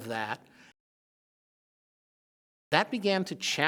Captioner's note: silence